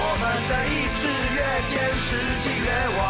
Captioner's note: none